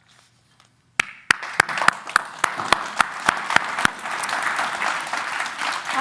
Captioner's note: applause